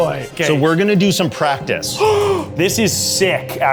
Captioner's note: gasps